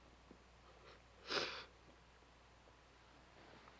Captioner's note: sniffling